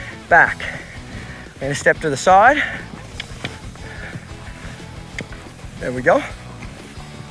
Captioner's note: mouth clicking